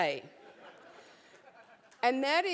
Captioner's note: laugh